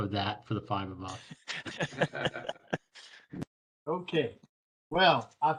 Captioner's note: laughter